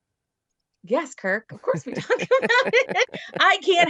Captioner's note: laughs